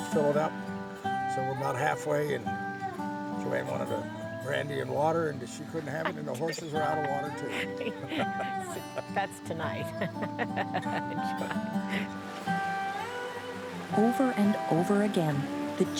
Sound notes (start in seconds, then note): 12.7 laughing